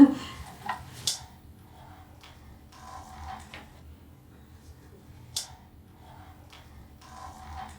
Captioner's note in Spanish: Silencio incómodo